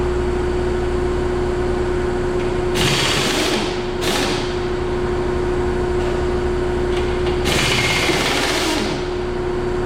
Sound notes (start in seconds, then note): 2.6 impact wrench and air compressor whirring